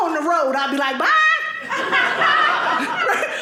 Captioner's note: audience laughing